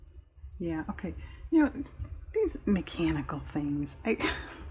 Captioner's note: laughs